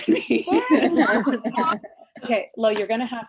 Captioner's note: laughs